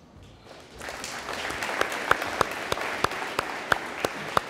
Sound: audience applauding

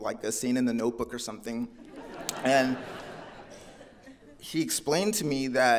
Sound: audience laughing

